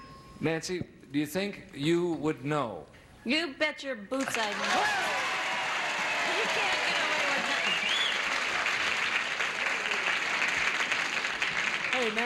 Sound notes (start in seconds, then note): 4.5 audience cheers; 9.3 audience applauds